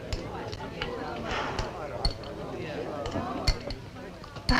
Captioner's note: blows